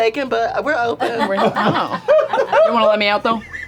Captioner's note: laughter